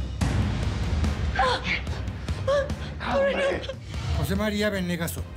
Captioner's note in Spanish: gemidos